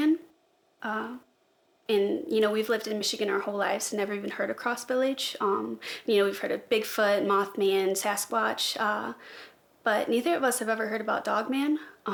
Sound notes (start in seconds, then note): none